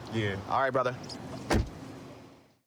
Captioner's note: door shuts